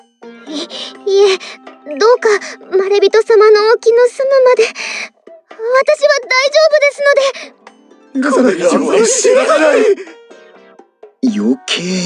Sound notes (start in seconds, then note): 9.4 shouting